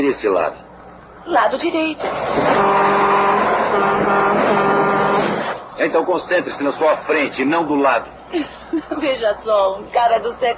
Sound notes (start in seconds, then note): 2.0 horn honking